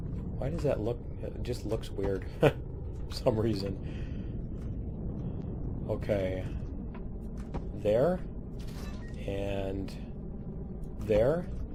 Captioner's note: laughs